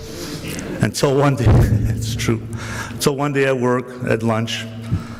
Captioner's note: he laughs